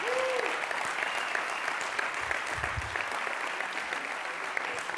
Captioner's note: applause